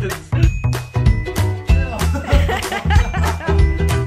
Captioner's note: laughter